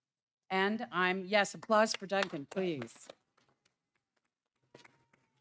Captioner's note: claps